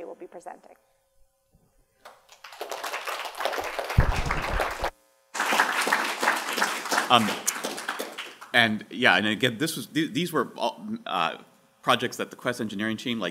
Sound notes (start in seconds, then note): 2.0 applause